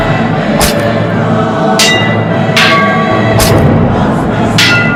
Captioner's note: sword fighting